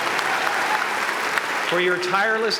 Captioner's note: applause